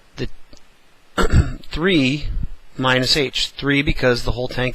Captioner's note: cough